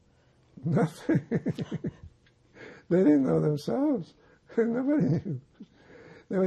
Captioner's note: laughing